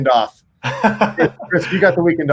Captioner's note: chuckles